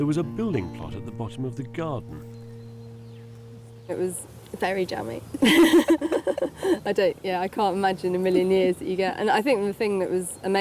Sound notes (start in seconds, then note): 5.3 laughs